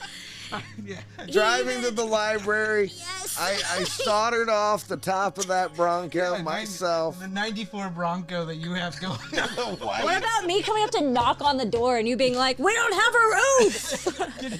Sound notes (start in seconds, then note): 3.1 laughing